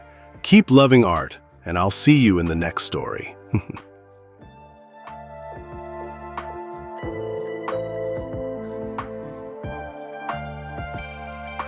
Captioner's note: chuckles